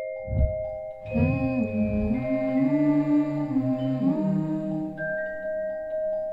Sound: humming

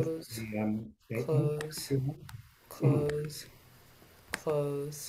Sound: murmuring

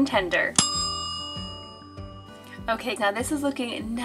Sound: bell dinging

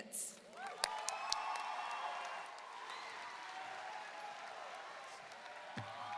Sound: audience cheering and applauding

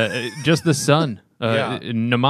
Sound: laughter

